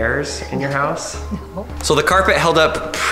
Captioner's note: laugh